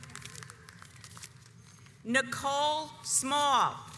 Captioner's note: audience applauds